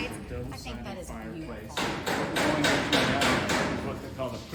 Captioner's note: hammer pounding